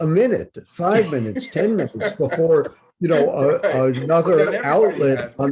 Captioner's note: Bob laughs